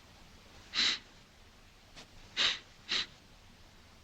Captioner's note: sniffs